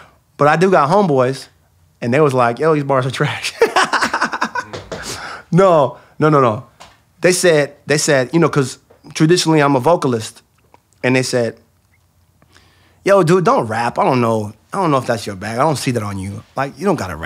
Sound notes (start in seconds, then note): 3.6 laughs